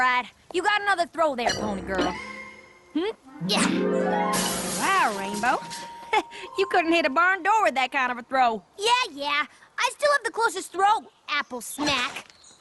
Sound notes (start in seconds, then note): 4.2 crash!; 6.0 chuckles